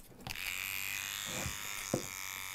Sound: whirring

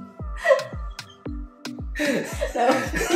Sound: laughs

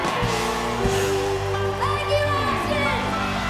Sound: cheering

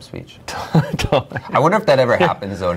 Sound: laughing

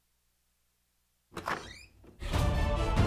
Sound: door opens

